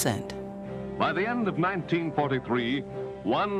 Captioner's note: radio Announcer